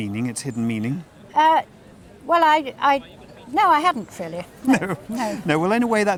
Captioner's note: laughs